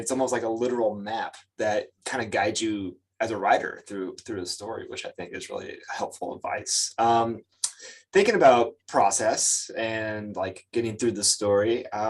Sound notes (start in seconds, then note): 7.6 lips smack